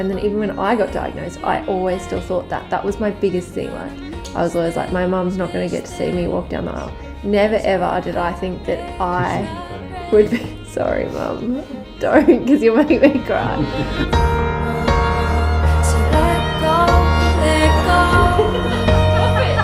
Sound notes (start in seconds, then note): 8.9 people murmuring; 9.7 laughs; 17.9 group laughing